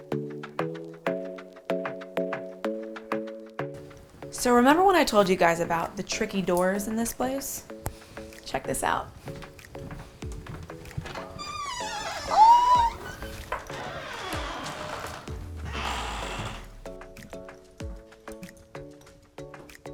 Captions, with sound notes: So, remember when I told you guys about the tricky doors in this place, check this out. (door opens) Ooh. (soft music continues)